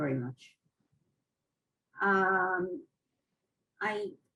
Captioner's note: pauses for 3 seconds